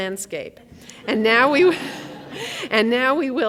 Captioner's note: audience laughs